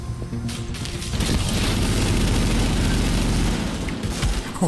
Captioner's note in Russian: беглый огонь